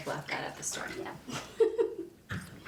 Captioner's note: giggle